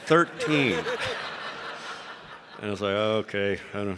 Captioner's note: audience laughing